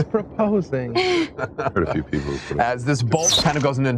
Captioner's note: all chuckles